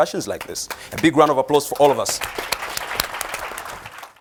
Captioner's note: applause